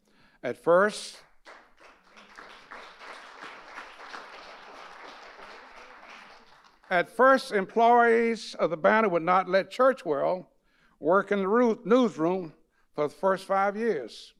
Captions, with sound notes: At first-- (audience applauding) At first, employees of "The Banner" would not let Churchwell work in the newsroom, for the first 5 years.